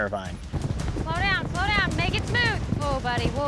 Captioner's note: galloping